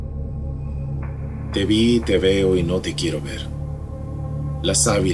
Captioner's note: reciting poem